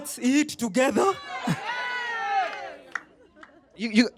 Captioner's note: laughter